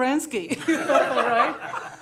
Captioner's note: laughter